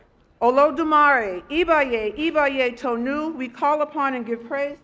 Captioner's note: speaking Foreign Language